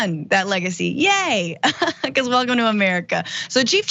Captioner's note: laugh